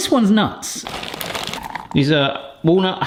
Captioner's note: nuts scattering